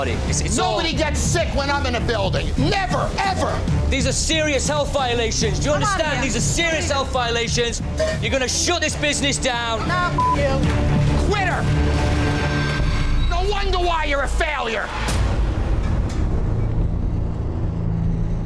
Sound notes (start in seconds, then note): 10.1 beep; 15.2 suspenseful music